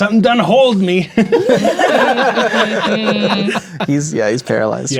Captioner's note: players laughing